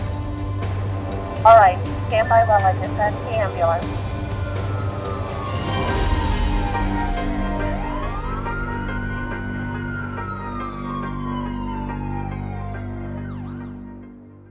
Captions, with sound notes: - [Voiceover] Alright, stand by while I dispatch the ambulance. (sirens)